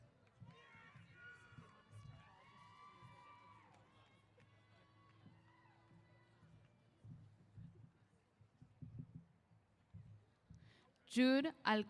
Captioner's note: cheers